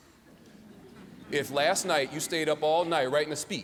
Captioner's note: laughter